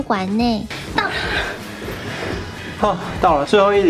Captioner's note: gasping